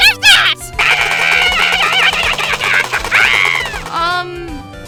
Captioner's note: Oldbag screaming, “ray gun” firing